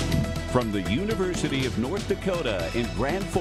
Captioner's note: voiceover